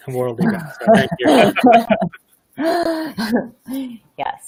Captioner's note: laughing